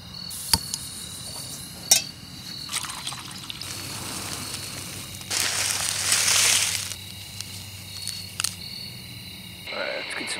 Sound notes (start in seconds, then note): 1.2 water pouring; 3.7 flames blowing; 5.1 noodles crunching